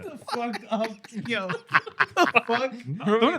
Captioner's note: laughing